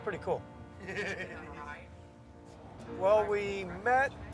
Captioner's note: group laughing and chatting